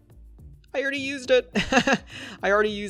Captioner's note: laughs